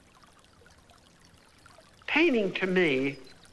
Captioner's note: water trickling